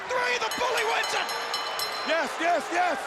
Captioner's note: bell ringing